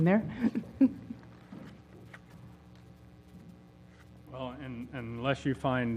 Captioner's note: laugh